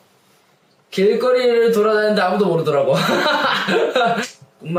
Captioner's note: laughs